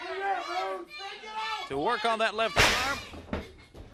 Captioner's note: crowd chatter